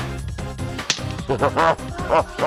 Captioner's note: laughs